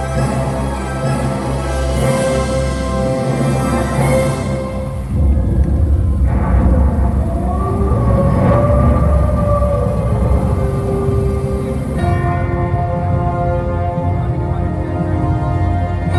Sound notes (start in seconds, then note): 4.6 Thunder, Werewolf Howl; 11.8 Music